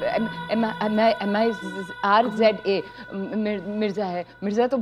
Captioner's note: Stammering